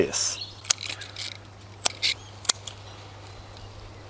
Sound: cutting

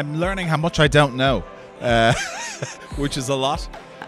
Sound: haha

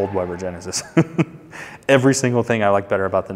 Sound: chuckles

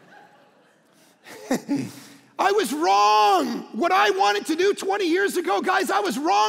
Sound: laughing

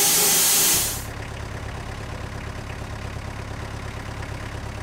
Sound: tractor rumbles

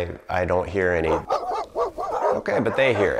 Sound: dogs barking

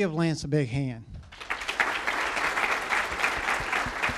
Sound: applause

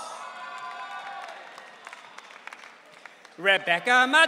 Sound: audience cheering

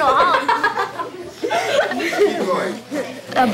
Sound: laughing

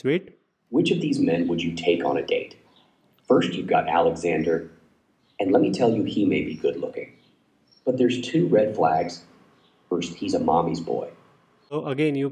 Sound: AI Voice

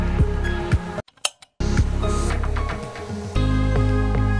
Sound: a sound of trigger - kick relay

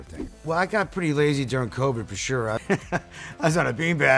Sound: chuckles

